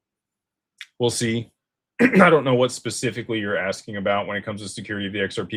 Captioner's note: clears throat